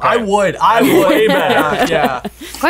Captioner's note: laughing